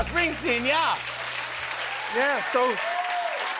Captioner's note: cheering and applause